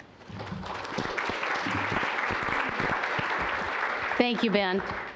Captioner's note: applause